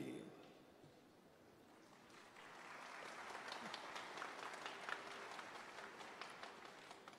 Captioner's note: applause